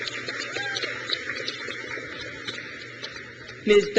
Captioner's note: crowd claps; woman In Orange cheers